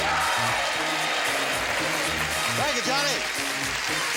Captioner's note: applause